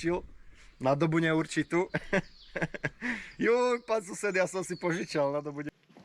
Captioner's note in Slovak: smiech